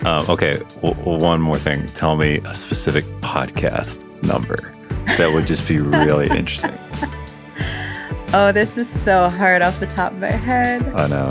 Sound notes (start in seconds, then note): 6.7 laughs